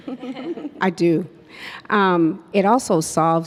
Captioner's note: panelists laugh